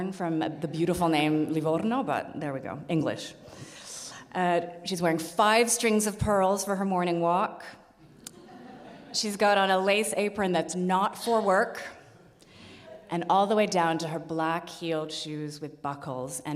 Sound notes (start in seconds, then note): 8.1 audience laughs